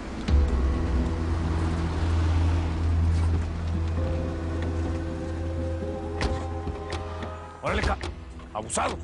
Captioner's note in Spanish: Ruido de los vehículos